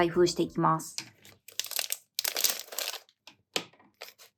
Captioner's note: enjoy the unboxing sounds!